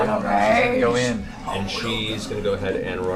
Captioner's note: Grog voice